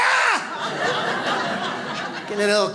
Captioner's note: audience laughs